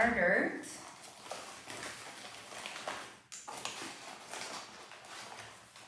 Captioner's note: cookie bag rustling